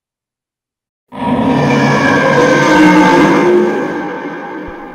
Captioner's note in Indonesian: suara auman